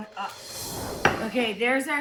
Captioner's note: transition whooshes